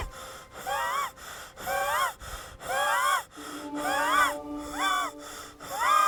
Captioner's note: Jacob breathing heavily